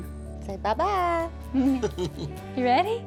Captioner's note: chuckles